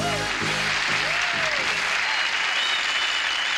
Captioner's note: cheering